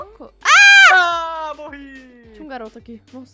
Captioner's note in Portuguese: grita